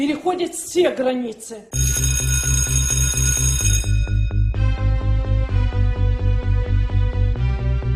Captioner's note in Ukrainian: дзвінок і музика